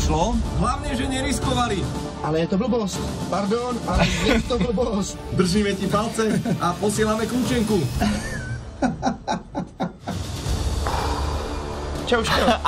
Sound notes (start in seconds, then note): 8.0 laughing